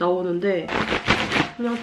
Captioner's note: flap